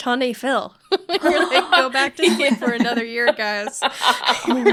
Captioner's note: laughing